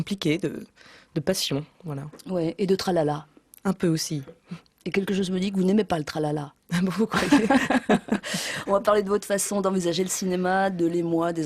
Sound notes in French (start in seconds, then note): 7.0 rires